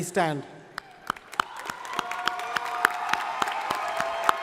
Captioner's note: crowd applauding